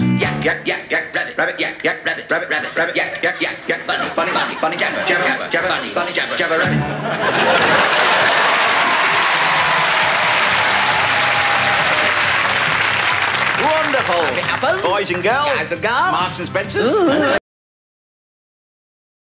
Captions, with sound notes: Yack yack yack yack rabbit rabbit yack yack rabbit rabbit rabbit rabbit yack yack yack yack bunny bunny bunny bunny jabber jabber jabber jabber bunny bunny jabber jabber, rabbit! [Applause] Wonderful As it happens Boys and girls Guys and gals Marks and Spencers Ooh